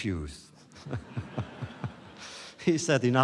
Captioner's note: laughter